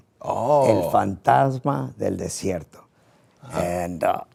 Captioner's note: Rey speaking in foreign language